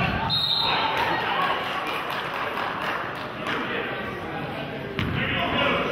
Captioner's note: whistle blows; clapping